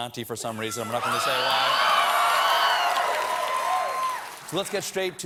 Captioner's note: applause